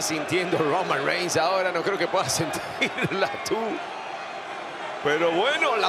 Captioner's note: laugh